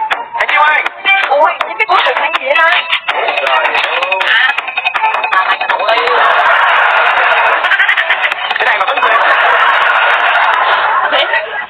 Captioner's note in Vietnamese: Vỗ tay; Vỗ tay